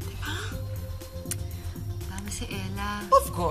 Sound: Claire clicks tongue

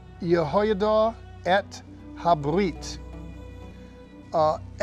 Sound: speaking in Hebrew

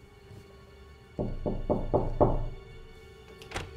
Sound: door knocking

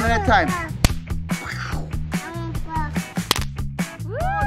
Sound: firecracker pops

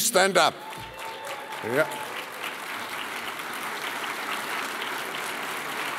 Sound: applause

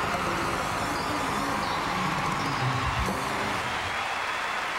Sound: audience cheering

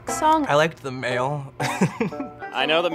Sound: laughing

